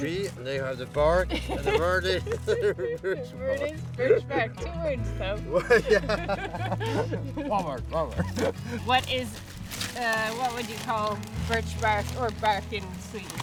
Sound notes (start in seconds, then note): 5.4 laughs